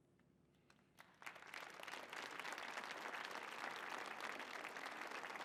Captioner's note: audience applauding